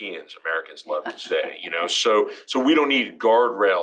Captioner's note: laugh